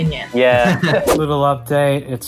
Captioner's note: laughs